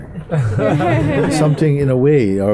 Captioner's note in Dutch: gelach